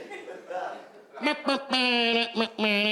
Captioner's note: imitates clown car horn